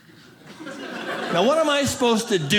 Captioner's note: audience laughing